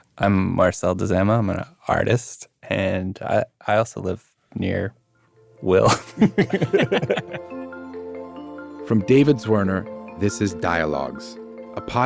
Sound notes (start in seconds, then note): 5.8 laughing; 8.0 bright upbeat music